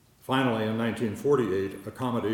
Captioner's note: none